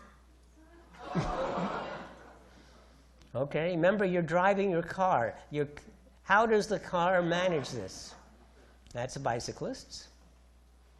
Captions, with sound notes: (audience gasps) Okay, remember you're driving your car. How does the car manage this? That's the bicyclists.